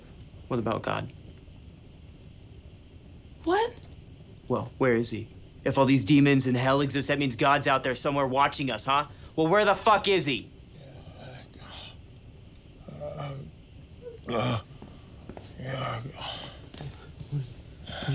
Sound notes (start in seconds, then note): 10.8 Woodrow groans